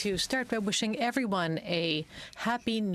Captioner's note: speaking French